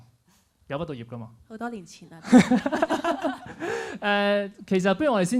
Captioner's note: laughs